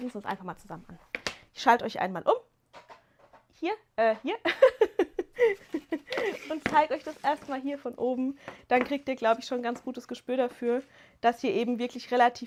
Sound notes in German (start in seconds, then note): 4.4 gelächter